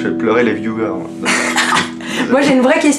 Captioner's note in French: rire